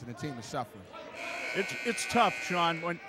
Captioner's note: buzzer buzzes